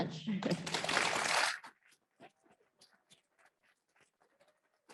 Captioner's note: audience applauds